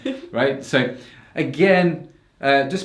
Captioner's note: laughs